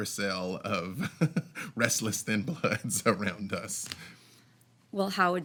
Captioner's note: chuckles